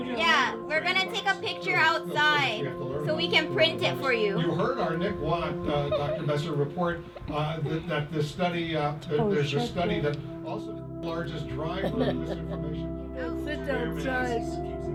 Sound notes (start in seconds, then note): 7.3 narrator chuckles; 11.1 laughing